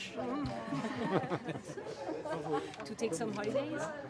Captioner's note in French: Rires